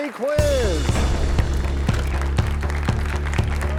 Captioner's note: crashing sound